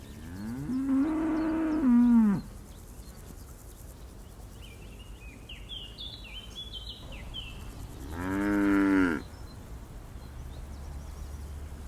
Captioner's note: cows mooing